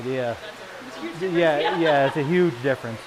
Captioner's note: laughs